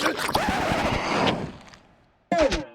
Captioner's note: needle scratches across record